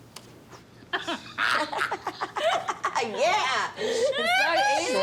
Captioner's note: chuckles